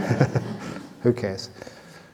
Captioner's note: laughs